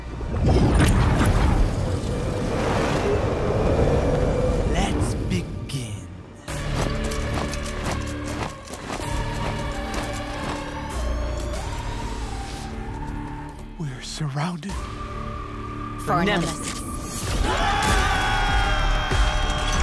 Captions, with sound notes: [wind rushing] [epic music plays] -Let's begin... [marching] -We're surrounded... -For Nemesis. [battle cries]